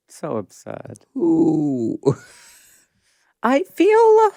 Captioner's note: laughs